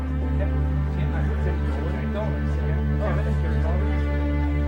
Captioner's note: people chatting